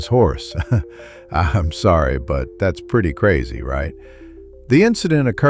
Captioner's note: laughs